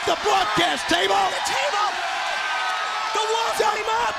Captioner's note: crowd cheering